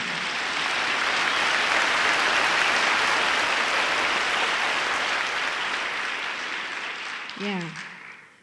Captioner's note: applause